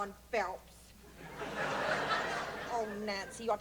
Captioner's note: laughter